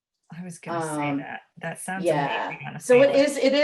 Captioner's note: laughs